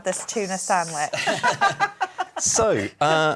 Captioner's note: laughing